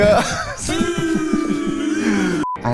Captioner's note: booing; laughs